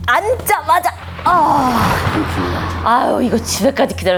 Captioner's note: thunder and lightning